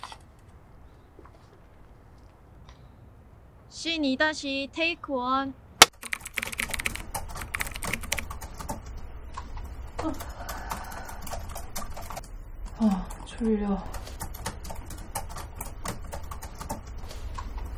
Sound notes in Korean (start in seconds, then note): 3.8 탁, 슬레이트 치는 소리; 5.9 타자 소리